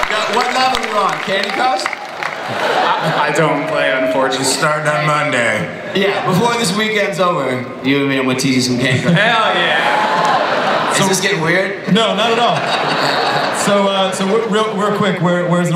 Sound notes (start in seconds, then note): 12.5 audience laughs